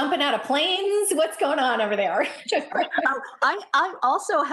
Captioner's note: laughs